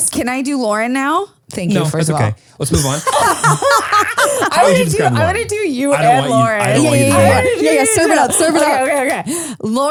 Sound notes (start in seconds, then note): 2.8 all laugh